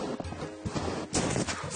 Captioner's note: snow crunching underfoot